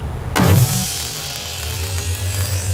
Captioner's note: static sound effect